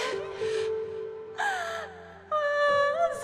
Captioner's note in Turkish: Ağlıyorlar